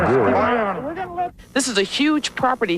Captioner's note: shouting